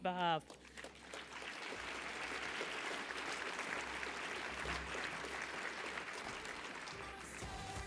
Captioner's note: applause